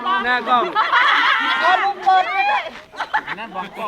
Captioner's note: all giggle